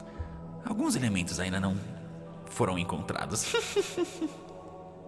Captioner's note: laughs